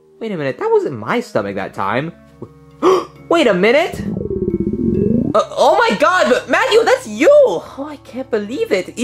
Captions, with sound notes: W-wait a minute. That wasn't my stomach that time. (Luigi gasping) Wait a minute. (stomach growling) O-oh my God. Mario, that's you! Oh, I can't believe it.